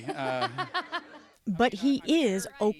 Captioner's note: laughter